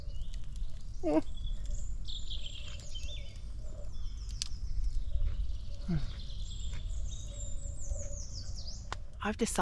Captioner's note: birdsong; whimpers